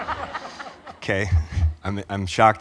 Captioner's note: audience laughs